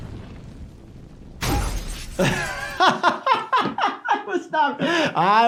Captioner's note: arcade cabinet crashing; laughing